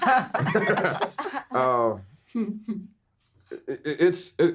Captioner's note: everyone laughing